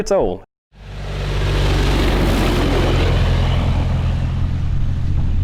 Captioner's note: plane engine roaring